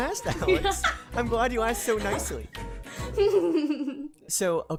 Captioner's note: giggles